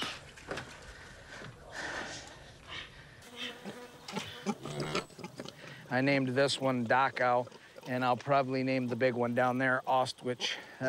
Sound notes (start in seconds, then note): 0.0 dog wheezes; 3.2 flies buzz; 4.0 piglets grunt